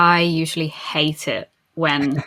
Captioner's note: laughs